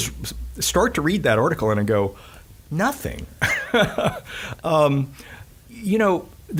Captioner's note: laughing